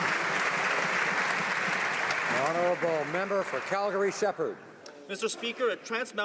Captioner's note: applause